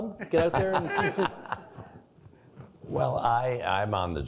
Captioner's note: laughing